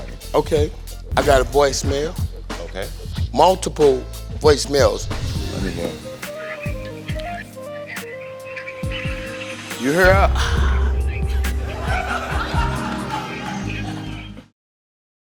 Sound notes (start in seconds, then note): 10.0 moans; 10.1 audience laughs